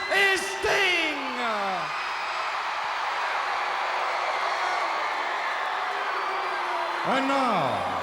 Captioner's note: crowd cheering